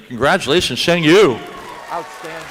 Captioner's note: applause